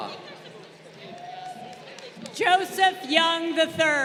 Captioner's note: crowd applauding